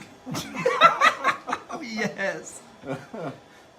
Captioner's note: laughs